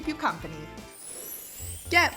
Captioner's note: chime